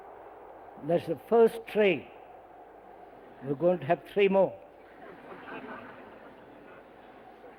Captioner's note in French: rires